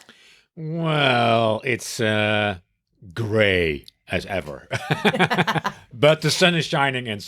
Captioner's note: both laugh